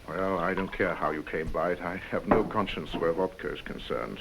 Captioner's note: none